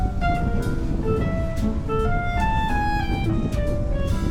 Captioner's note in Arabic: none